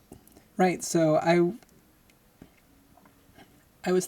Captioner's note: none